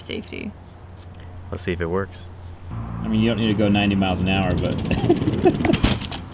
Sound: laughing

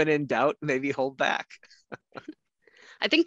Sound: laughs

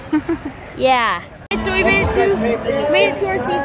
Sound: laughs

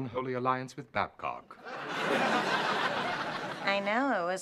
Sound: laughter

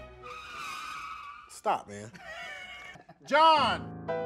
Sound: music screeches; laughs

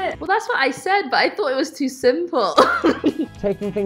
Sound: laughs

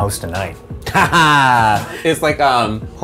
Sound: laughs

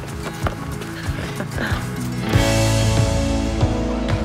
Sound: laughs

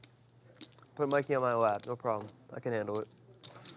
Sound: voiceover

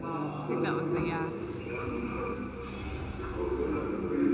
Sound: muffled voice

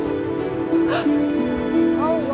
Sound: gasps

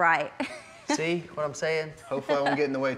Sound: chuckling

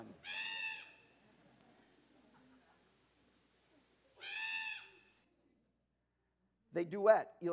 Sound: bird Sound

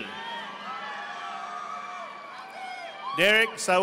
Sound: audience applauding

